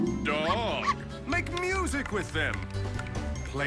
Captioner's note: dog barking